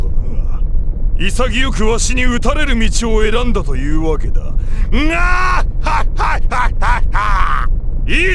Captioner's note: laugh